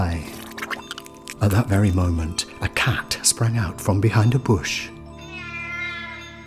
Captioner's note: miaaaow